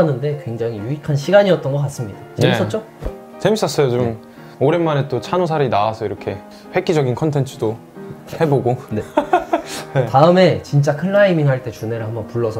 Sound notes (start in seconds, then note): 9.0 haha